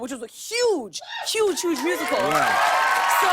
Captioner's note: cheers and applause